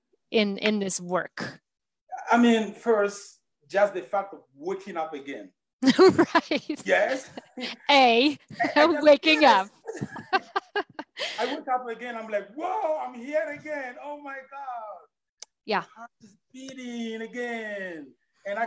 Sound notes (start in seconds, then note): 5.9 laughs; 10.0 both laughing